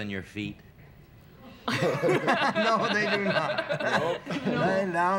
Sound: laughter

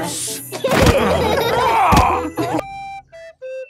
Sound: laughing

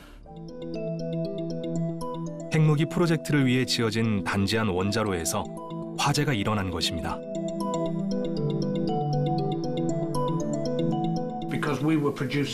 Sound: voiceover

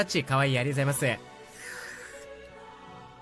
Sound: drinks

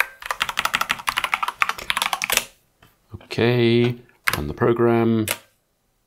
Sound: clicking

